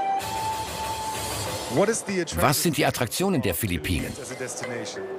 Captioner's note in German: englisch